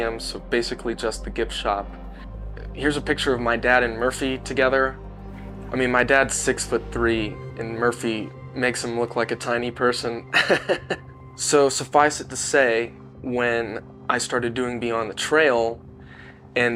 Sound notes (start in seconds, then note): 10.3 laughing